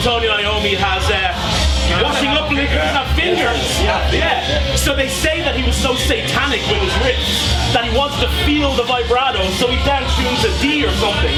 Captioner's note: all agree